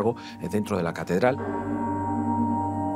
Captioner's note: bells ringing